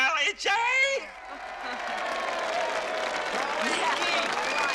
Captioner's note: Аплодисменты публики